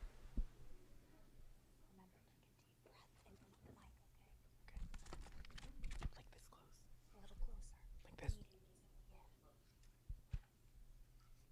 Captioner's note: applause